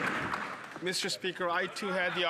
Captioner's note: some Applause